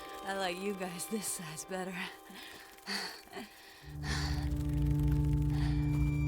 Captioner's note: laughs; tense pensive music